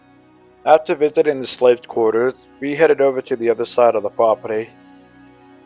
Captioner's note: soft Music; voiceover